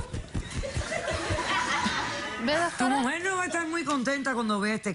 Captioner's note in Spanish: Risas